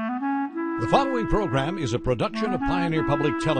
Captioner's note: voiceover